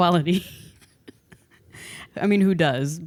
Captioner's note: laughs